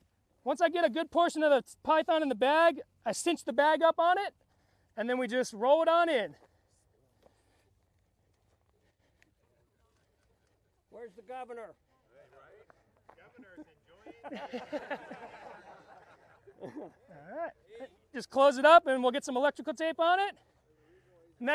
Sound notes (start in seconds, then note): 13.2 laughing